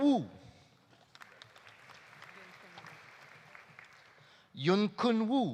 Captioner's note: audience applauding